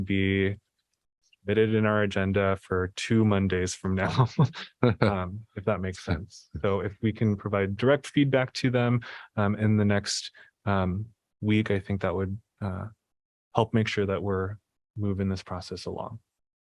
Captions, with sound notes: be fitted in our agenda for two Mondays from now, [LAUGHTER] if that makes sense, though, if we can provide direct feedback to them, um, in the next, um, week, I think that would, ah, help to make sure that we're moving this process along.